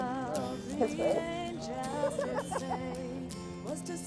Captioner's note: woman laughing